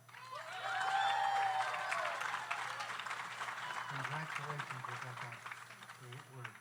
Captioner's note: audience applauds; audience cheers